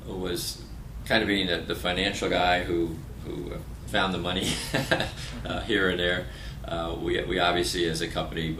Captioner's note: laughter